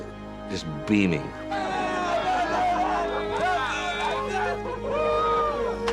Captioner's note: all cheering